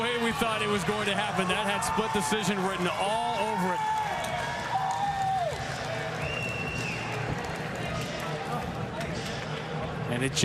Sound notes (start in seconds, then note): 0.0 cheers and applause